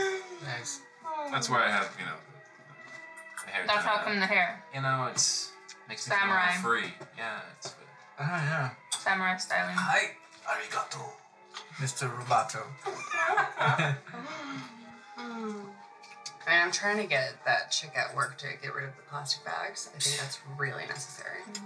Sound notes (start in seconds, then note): 12.8 laughter; 14.1 Vivi sighs